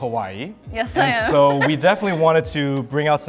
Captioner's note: laughs